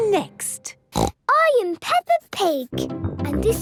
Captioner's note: snorts